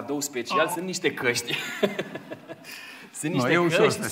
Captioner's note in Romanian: Râsete